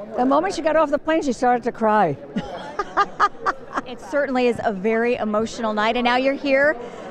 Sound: laughing

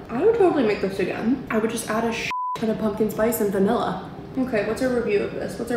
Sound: beep

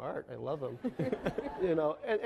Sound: laughing

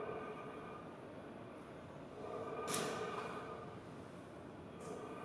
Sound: rhythmic breathing continues

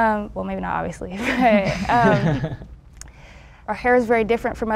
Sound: group laughs

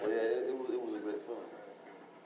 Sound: laughing

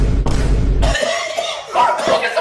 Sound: chokes

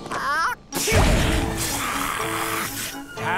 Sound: sneezing; hissing; sneezing

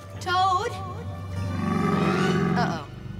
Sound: gator roaring

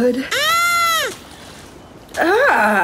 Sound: screams

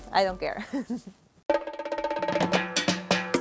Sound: laughing

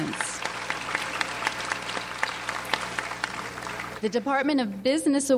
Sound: audience applauds

